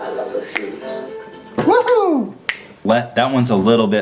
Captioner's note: snapping